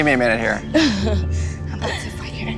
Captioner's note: laughs